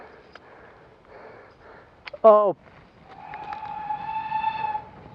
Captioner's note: train Whistle